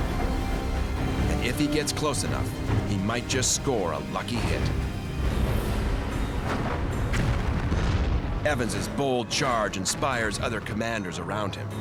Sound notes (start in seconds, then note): 5.2 explosions booming